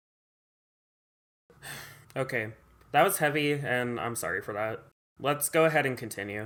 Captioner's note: sigh